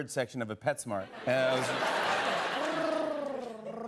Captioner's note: laughter and applause